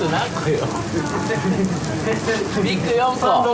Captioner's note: laughs; laughter